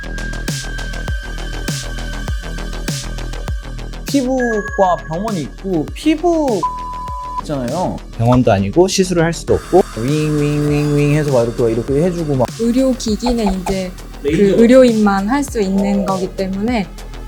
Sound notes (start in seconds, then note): 9.5 sound of machine running